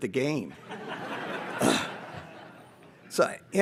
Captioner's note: audience laughs